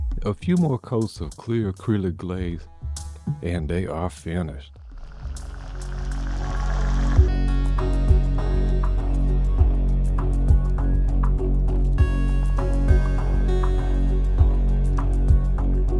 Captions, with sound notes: A few more coats of clear acrylic glaze and they are finished. (water splashing) (upbeat music)